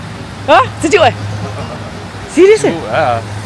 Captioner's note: laugh